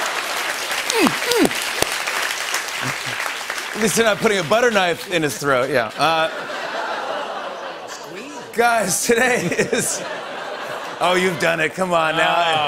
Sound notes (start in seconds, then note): 0.0 laughter and applause; 0.9 grunting; 6.1 audience groans